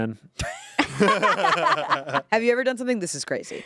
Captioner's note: everyone laughs